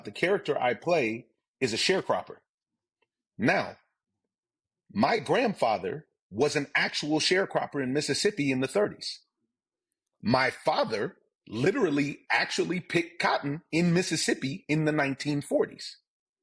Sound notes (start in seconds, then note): none